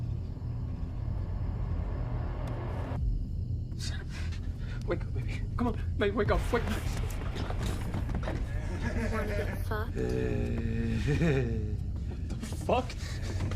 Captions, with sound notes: (suspenseful music) - Sara. Wake up, baby. Come on. Baby, wake up. (assailant cackling) - You wanna get fucked? (assailant cackling) - What the fuck?